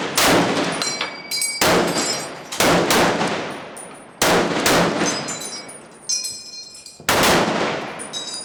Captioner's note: gunfire